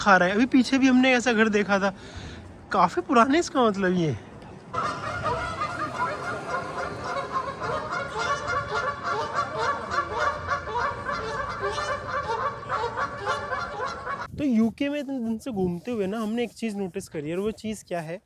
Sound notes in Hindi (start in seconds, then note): 11.6 हंसी